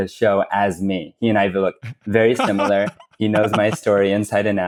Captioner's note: laughs